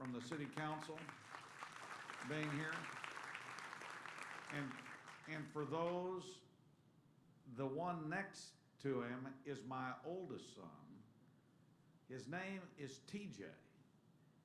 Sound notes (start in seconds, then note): 3.0 applause